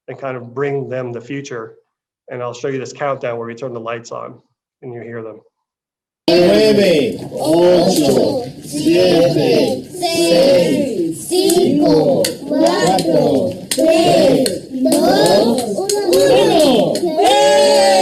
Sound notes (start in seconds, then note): 11.5 speaking foreign language